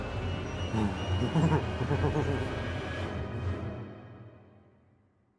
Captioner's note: Patrick cackling